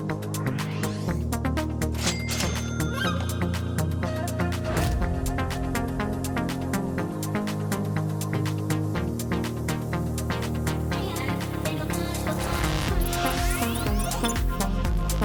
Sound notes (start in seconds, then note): 1.9 upbeat music; 2.0 cash register rings